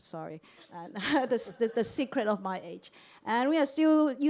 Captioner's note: laughter